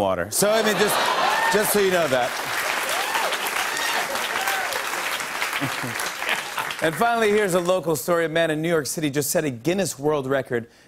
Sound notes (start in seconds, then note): 2.4 laughter, cheers, applause